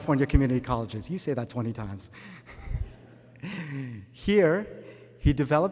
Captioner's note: laughter